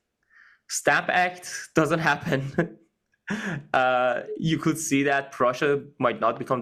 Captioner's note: laugh